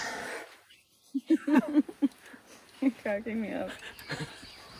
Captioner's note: laughs